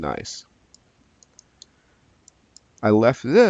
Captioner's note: mouse clicking